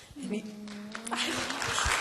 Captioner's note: applause